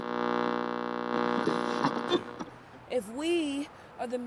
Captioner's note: radio static